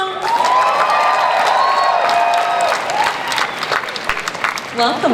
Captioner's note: audience cheers